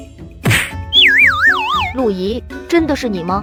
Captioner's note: slap